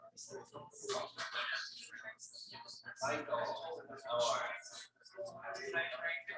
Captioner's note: people chattering indistinctly continues